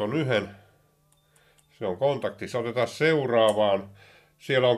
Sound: beeps

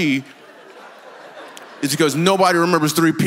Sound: congregation laughs

